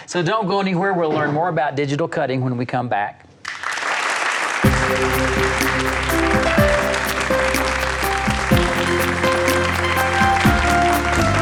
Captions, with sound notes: - So don't go anywhere, we'll learn more about digital cutting when we come back. (audience applauds) (upbeat music)